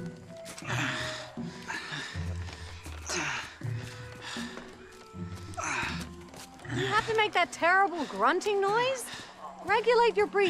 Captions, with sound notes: [grunts with effort] Is that terrible grunting noise necessary?